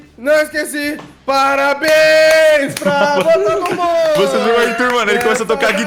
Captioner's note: clapping